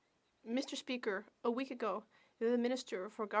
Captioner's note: speaking French